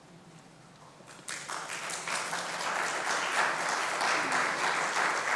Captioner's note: congregation applauding